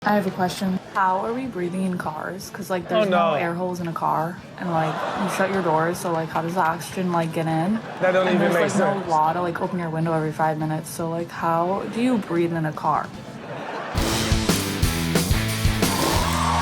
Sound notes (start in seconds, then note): 4.6 audience laughs; 13.2 audience laughs; 13.9 rock intro music plays